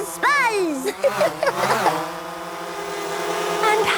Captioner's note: Peppa laughing